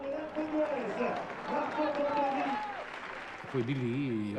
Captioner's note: applause